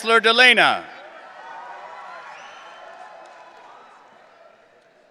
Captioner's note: audience cheering